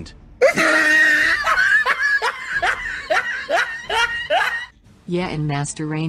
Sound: laughs

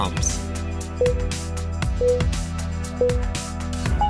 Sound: timer beeping

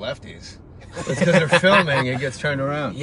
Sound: laughing

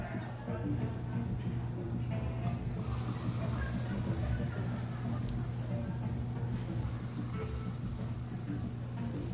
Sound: whip cream noises

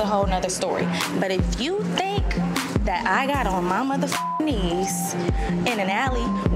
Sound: beep

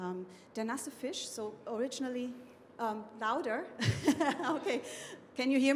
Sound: laughing

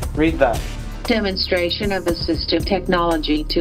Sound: computer voice

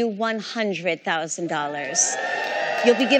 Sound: cheering

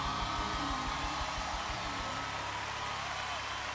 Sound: song ends; audience cheering and applauding

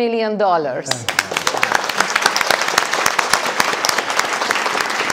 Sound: audience applauding

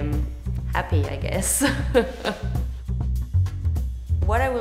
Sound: laughs

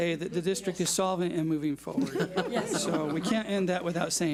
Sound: board laughs

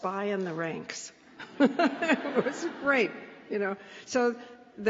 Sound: laughs

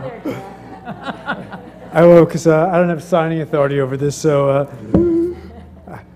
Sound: laugh

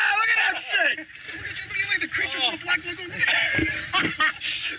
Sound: laughing

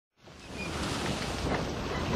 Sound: ocean waves

